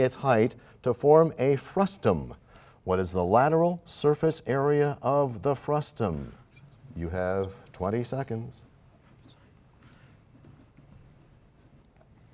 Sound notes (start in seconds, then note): none